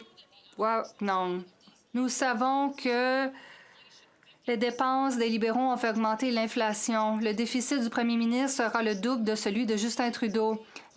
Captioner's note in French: voix de l'interprète